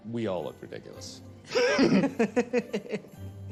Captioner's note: all laugh